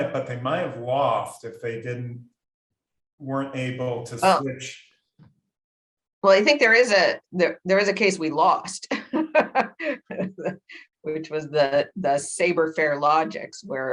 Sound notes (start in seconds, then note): 9.0 laughs